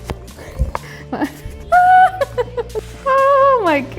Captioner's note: giggles